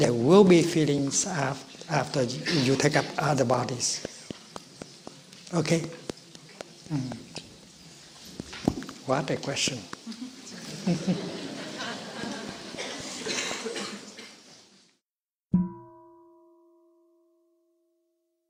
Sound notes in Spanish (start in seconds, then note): 10.0 La gente se ríe; 15.6 Medio sonido de la campana